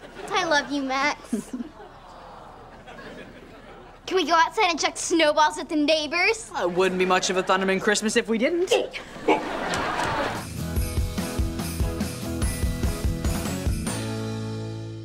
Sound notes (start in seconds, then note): 8.6 laughing